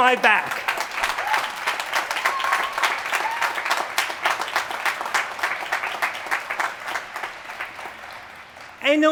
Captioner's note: applause